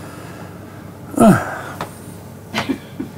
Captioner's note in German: Er seufzt